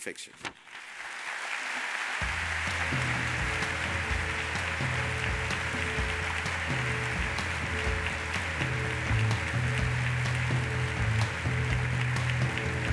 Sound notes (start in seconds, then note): 1.0 audience applauds; 3.7 upbeat lively music; 6.8 audience applauds